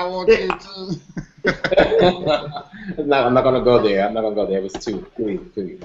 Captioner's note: laughter